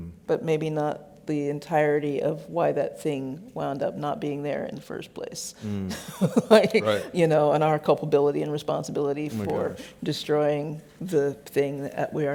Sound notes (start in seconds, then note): 5.6 laughs